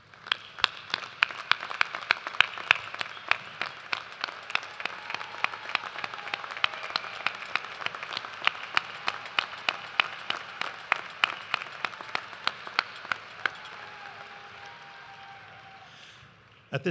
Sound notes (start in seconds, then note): 4.3 applause